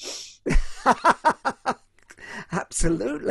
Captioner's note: laughs